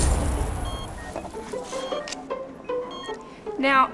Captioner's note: beeping